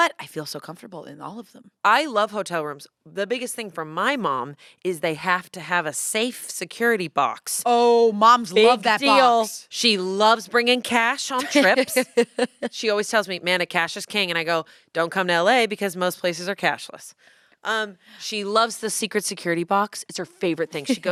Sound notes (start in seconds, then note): 11.3 laughs